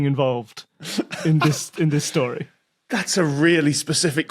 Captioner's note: giggles